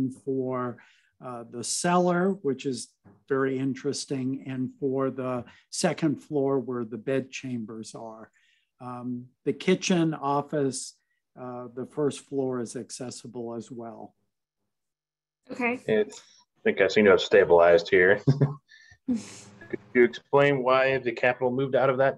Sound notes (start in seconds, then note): 18.1 laughs